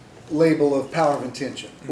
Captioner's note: none